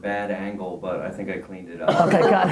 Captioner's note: everybody laughs